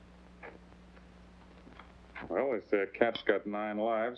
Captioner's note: none